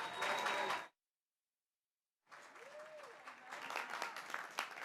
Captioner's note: graduates cheering